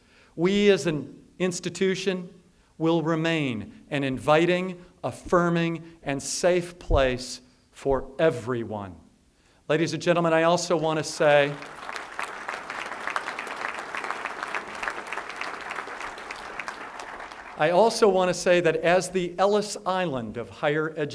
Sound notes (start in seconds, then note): 13.6 applause